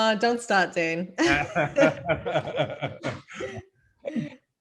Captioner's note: laughing